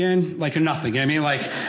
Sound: audience laughing

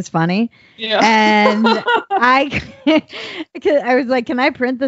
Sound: laughing

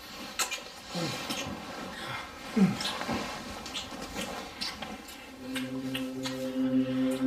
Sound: kissing

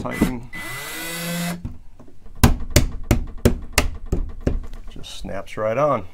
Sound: power tool whirring

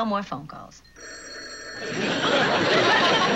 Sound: phone rings

